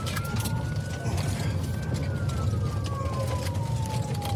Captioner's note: siren wailing